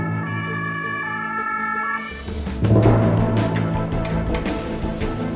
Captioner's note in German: Martinshorn